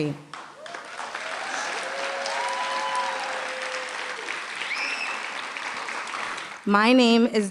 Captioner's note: applause